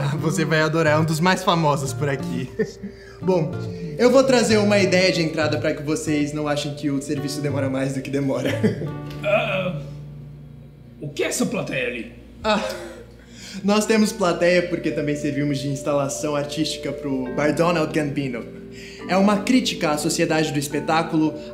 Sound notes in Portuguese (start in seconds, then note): 9.1 limpando a garganta